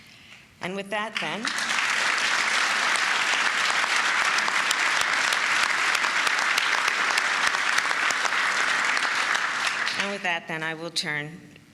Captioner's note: applause